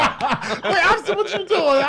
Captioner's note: laughs